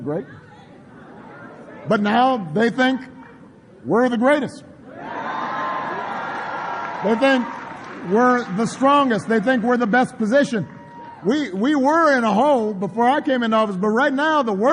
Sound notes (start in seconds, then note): 5.7 applause